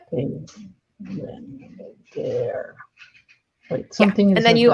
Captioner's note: mumbles